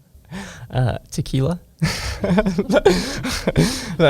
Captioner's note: laughs